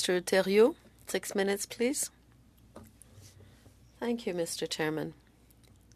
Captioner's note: speaking French